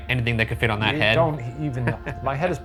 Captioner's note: chuckles